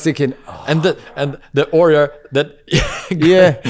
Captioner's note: laughs